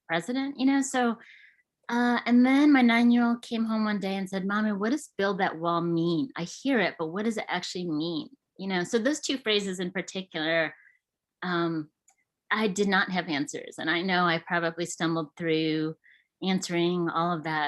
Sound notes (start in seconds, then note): none